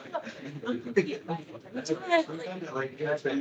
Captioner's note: attendees laughing; attendees chattering